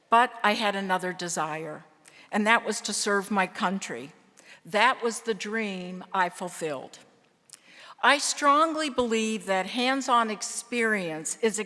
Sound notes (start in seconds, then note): none